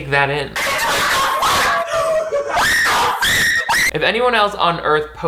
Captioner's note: woman screaming and cursing